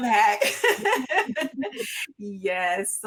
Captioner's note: laughs